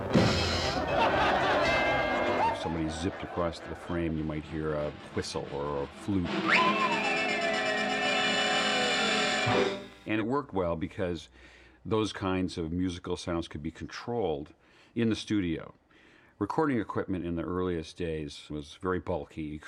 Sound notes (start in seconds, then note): 0.0 CYMBAL CRASHlNG; 1.3 BELL DlNGlNG; 6.2 WHlSTLE TOOTlNG; 8.9 horn honks